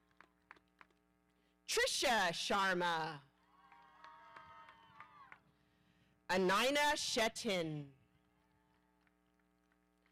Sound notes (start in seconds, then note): 3.5 audience cheering